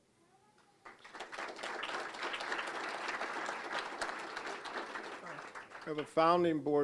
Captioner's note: applause